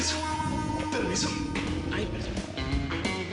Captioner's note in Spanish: Ruido de las tripas de Lucas